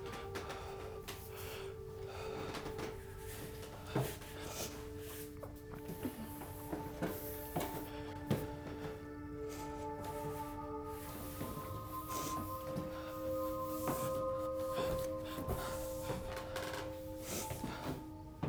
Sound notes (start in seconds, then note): 4.3 feet padding; 4.3 gentle music continues